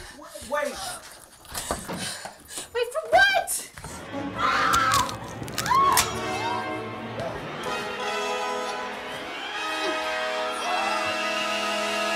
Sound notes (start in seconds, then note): 4.7 fleshy thunks; 5.5 screaming